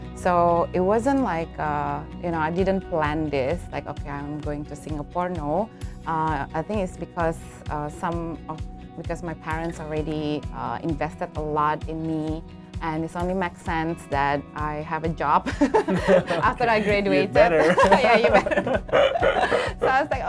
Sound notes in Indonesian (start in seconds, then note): 15.6 tertawa; 18.4 keduanya tertawa